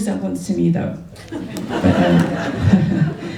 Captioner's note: laughter